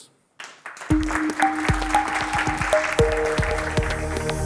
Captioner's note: students clap